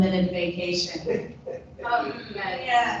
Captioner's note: people laughing